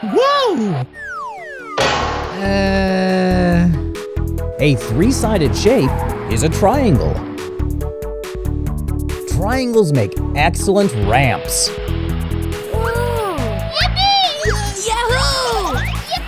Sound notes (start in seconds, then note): 0.0 giggling; 1.8 clunks; 2.2 groans